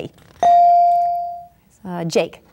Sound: bell dinging

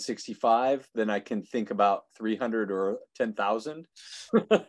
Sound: laughing

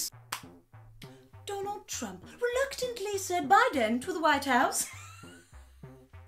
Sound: laughs

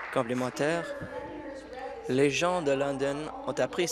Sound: applause

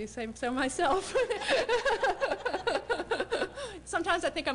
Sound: laughter

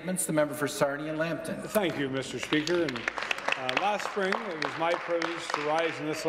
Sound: some Applause

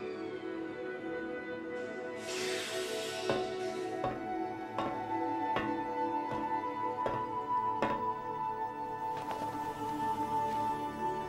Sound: walking on metal stairs

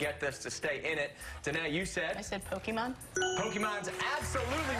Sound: cheers and applause

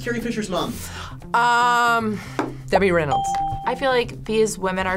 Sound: ding

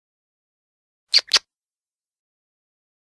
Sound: sound of kisses

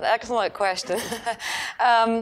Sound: laughing

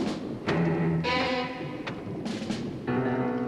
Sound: door banging

